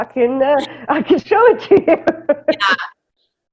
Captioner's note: laughter